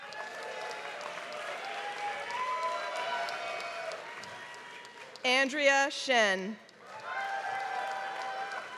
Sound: applause; applause

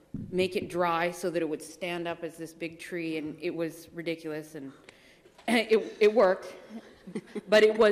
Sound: laughter

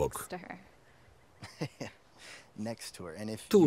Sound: laughs

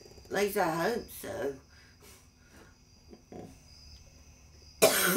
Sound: coughs

